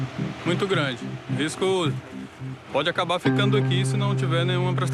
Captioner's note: Portuguese spoken audio